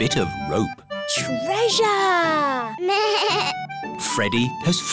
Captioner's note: bleats